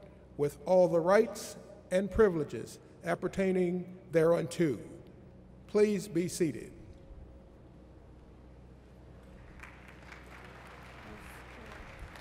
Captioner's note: applause